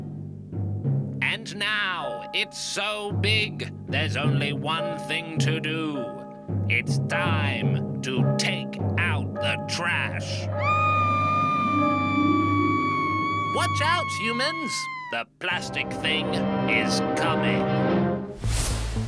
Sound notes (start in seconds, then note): 10.5 screams